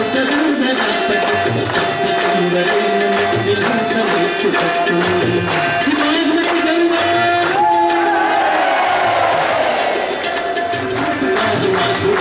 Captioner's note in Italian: Applauso